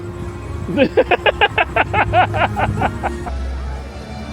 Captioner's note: laughs